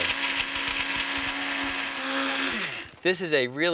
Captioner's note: blender whirring